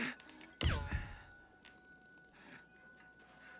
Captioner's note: silence